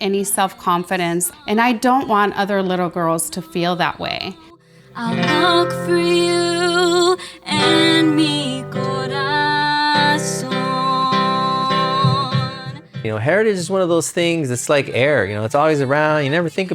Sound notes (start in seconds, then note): 8.1 spanish